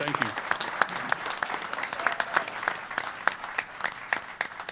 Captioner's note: applause